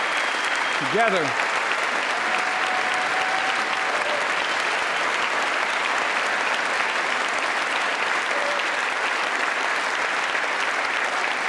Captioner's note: applause